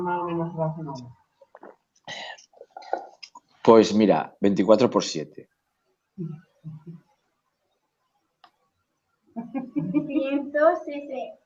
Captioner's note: everybody laugh